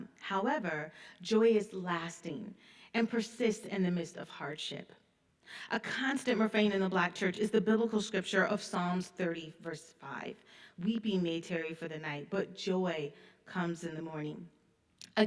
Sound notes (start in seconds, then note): none